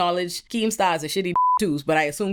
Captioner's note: beep